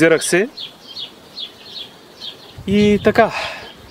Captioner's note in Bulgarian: Въздишане